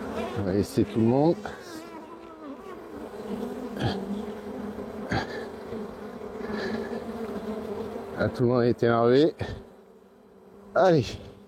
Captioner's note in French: bruit abeilles